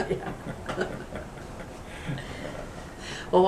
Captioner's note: laughter